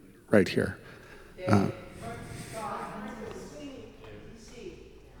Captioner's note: congregation chanting